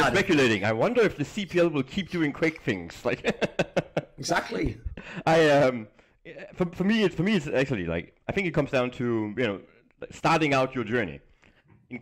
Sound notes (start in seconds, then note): 3.2 laughs